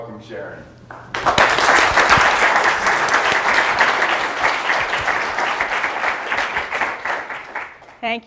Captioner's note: applause